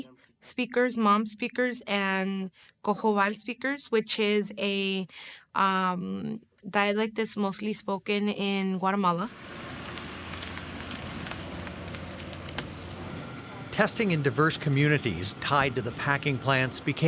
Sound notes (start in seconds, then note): 11.9 engine purrs